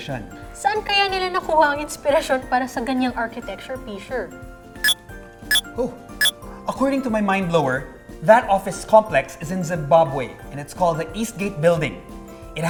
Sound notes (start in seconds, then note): 5.5 MindBlower beeps